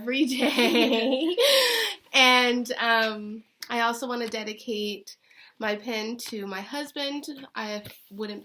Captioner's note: laughter